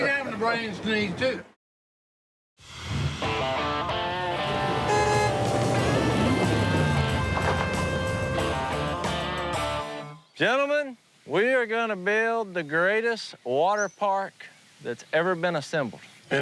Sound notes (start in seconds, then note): 4.0 upbeat music playing; 4.1 car horn honking